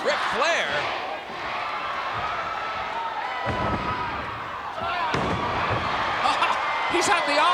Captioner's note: laugh